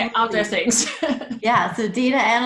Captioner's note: laughs